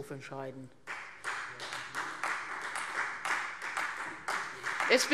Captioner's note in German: Beifall Freie Demokraten